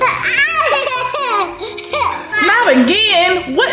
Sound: laughing

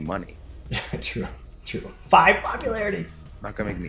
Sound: laugh

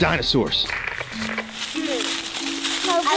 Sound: footsteps rustle; static crackles

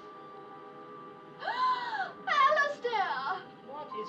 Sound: woman Gasps

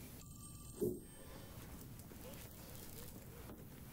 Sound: phone ringing

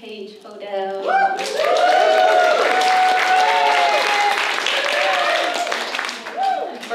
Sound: audience cheers

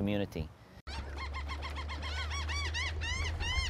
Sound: seagulls calling

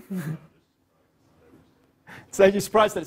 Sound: laugh

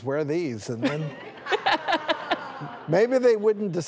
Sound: laughs

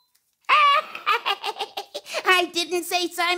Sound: chuckling

